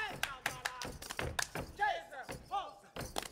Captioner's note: feet stomping and hands clapping; speaking in language other than English; feet stomping and hands clapping